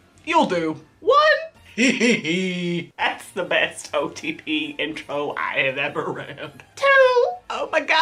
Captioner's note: laughs